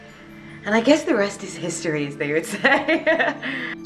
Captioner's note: laughing